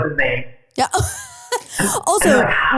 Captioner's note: laughing